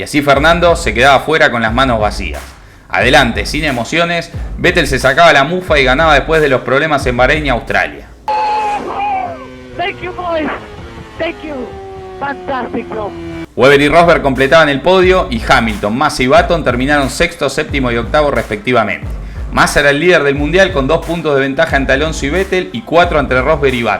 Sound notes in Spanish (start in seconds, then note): 11.3 radio